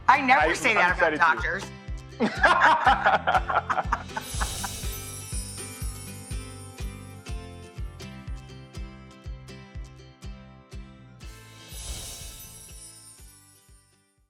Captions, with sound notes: I never say that about doctors. I'm excited too. (joyful laughter) (gentle music)